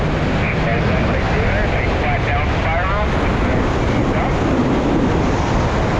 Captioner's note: roaring wind drowns out the radio